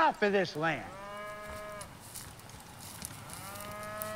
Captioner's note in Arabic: خرير البقرة